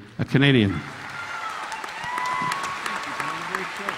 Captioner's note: audience cheering; audience applauding